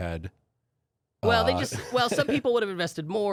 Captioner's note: laughing